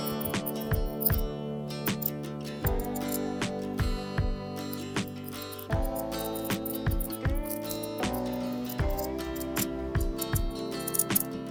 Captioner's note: quiet scissor noises